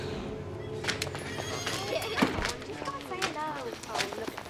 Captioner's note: children giggling